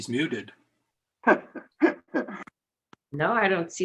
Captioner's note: laughs